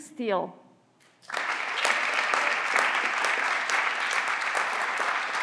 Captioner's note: everyone claps